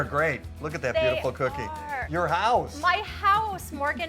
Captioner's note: laughs